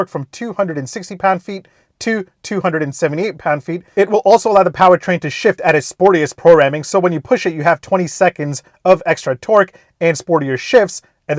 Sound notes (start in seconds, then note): none